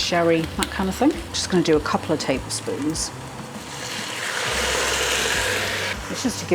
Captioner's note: sizzle